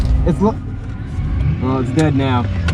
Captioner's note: engine dies